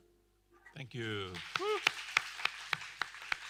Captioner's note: applause